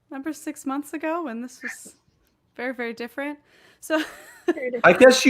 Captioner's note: laughs